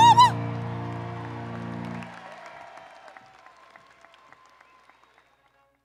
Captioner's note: audience cheering and applauding